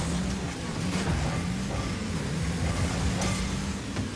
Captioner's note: cars clattering